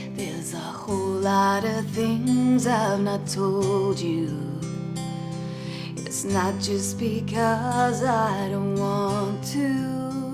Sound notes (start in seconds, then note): none